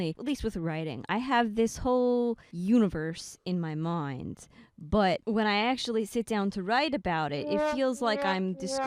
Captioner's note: sad trombone noise